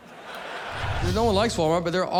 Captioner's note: audience laughing